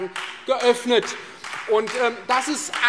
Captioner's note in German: Beifall Freie Demokraten